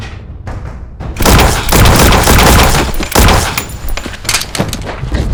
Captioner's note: gun blasts